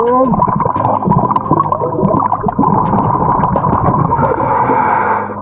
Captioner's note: water bubbling